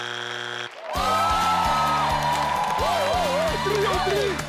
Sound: crowd cheering

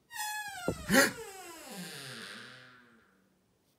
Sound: door creaks

